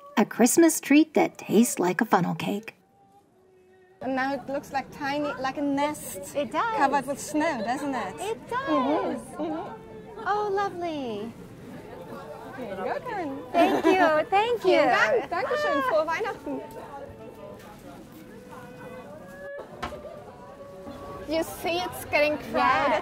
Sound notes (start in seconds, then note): 15.1 speaks German